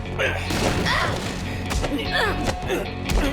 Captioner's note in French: Juliette crie